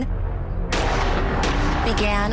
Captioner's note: gunshots